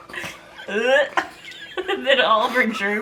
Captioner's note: vomit sound